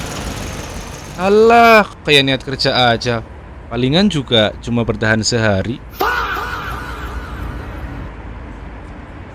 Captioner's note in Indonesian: berteriak